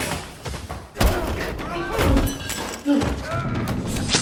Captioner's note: grunting, yelling continues